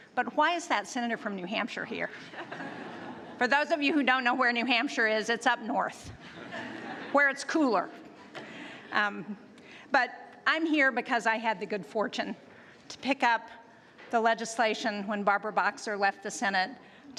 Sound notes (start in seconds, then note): 2.2 laughter; 9.1 laughter